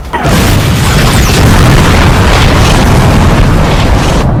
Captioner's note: bazooka firing; bombs banging